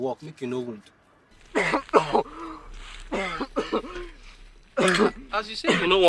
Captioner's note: coughing